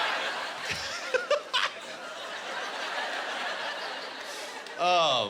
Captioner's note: laughing